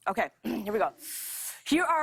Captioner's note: clears throat